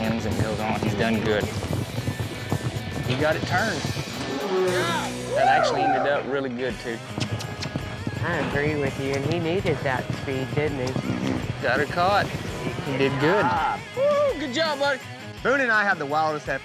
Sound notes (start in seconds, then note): 1.5 hoof beats